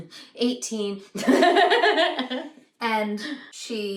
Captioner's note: laughter